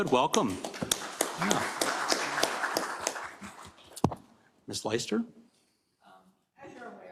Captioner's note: applause